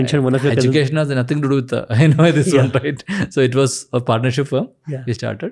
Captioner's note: chuckles